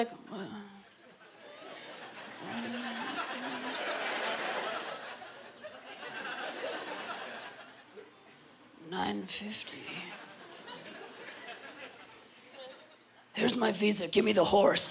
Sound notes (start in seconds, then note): 1.0 laughter; 8.5 gravely voice